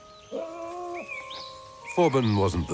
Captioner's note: whimpering